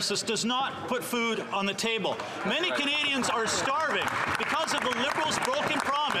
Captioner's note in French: voix de l'interprète